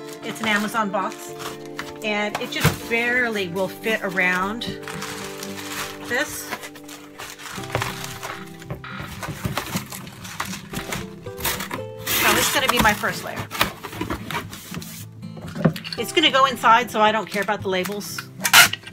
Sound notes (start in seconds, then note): 6.9 calm music; 6.9 paper rustling